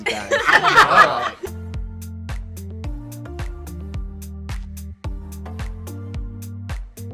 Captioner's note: all laughing; upbeat music